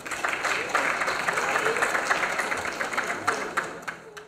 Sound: applause

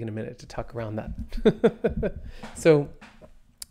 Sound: laughs

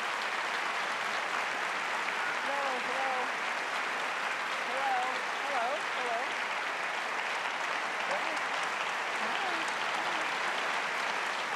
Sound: applause

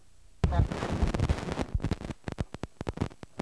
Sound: static

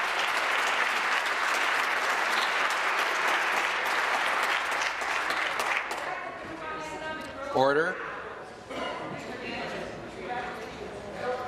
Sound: applause

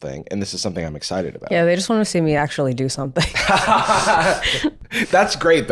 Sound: laughing

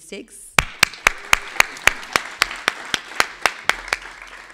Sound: everybody clapping

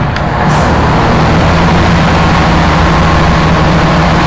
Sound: boat roars

